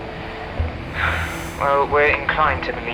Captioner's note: sigh